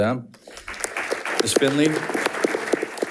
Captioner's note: audience applauding